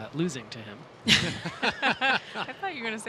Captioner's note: group laughing